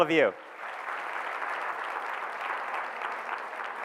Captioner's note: audience claps